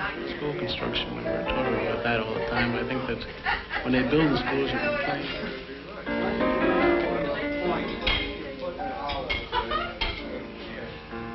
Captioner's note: chatter